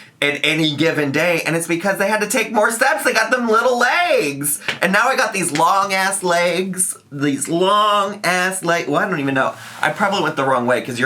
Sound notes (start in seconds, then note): none